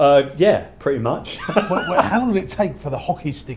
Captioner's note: laughs